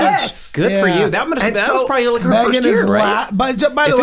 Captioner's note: all murmuring